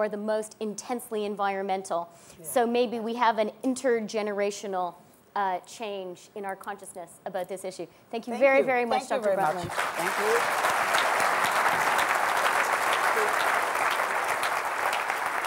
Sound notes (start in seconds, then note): 9.4 applause